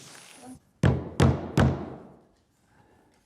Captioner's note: loud banging